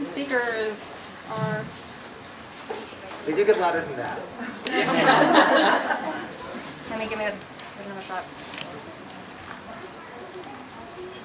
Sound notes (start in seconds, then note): 4.4 audience laughing